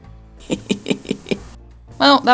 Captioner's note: quiet laughter